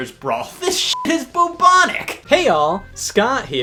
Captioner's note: beep